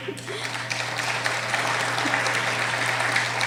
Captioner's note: applauding